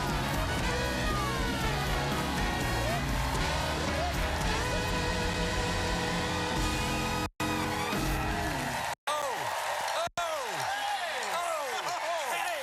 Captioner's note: cheers and applause